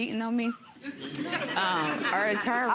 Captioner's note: crowd laughing